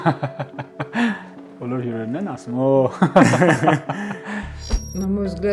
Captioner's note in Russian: смех